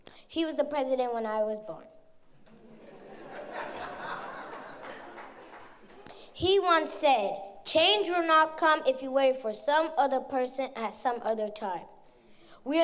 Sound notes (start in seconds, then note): 2.4 audience chuckles